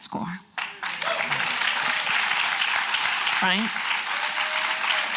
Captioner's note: applause